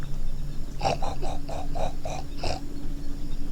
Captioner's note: imitating pig noise